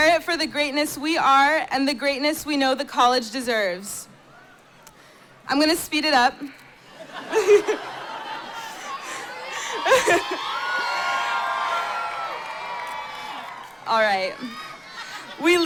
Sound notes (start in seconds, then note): 6.9 laughter; 9.9 cheering